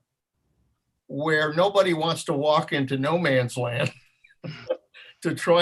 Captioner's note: laughs